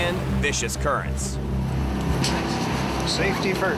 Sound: engine humming

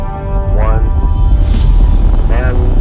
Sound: rockets roar

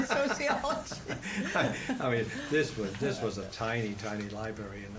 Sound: laughs

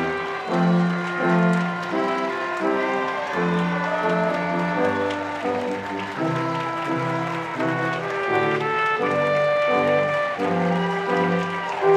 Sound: applause

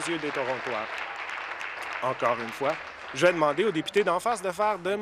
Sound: applause

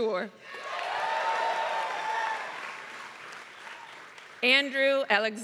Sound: applause

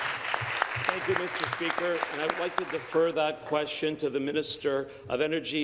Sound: applause

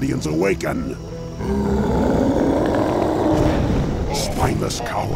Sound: roar

